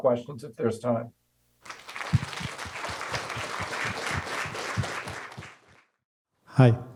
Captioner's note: applause